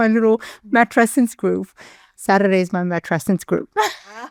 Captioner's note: chuckles